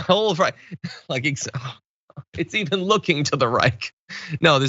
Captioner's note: laugh